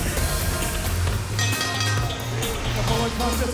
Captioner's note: bell ringing